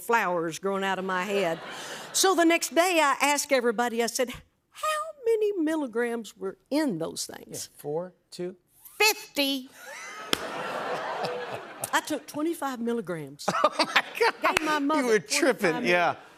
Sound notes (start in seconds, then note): 9.9 crowd gasps, laughs